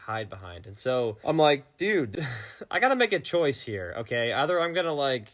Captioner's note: laughing